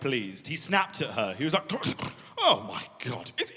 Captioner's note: gurgling